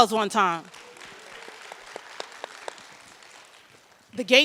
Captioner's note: audience applauds